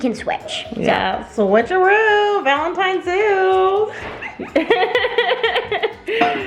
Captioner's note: laughs